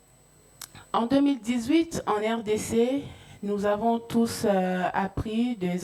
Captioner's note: speaking in French